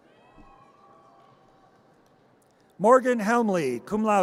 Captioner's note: audience cheers